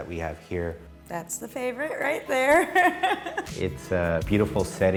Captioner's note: laughs